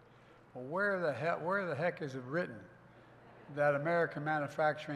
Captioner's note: laughter